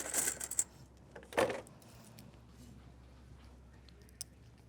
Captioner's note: coins clinking